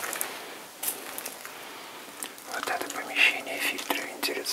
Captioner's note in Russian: шаги